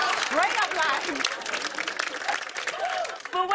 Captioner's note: laughter, applause